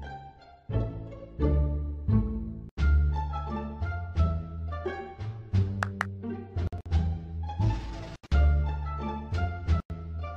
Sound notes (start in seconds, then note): 5.8 claps